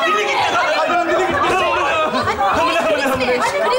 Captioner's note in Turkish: bağrışmalar